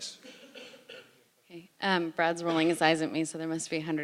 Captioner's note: cough